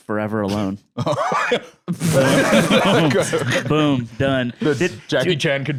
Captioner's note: laughs